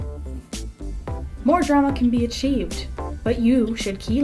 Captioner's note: voiceover